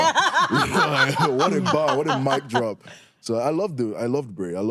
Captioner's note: laughs